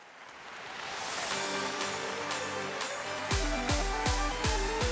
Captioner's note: audience applauding